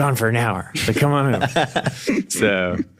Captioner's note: laughs